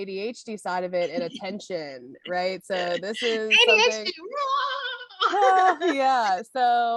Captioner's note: laughter; both talking and laughing